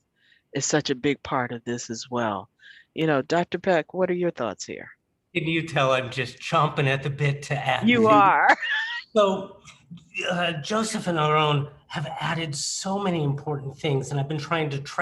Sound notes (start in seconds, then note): 8.4 laughter